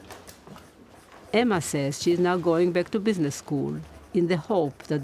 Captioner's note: voice-over